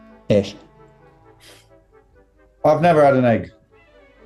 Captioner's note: sighs